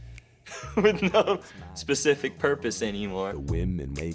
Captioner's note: chuckling